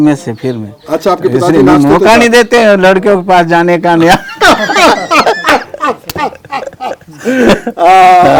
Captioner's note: laughs